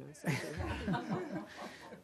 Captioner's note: laughter